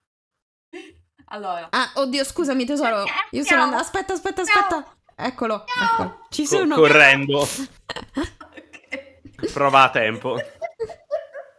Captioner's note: actively meowing in protest in the BG